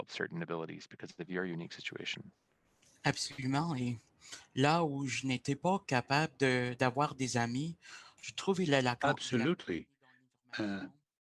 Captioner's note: speaking French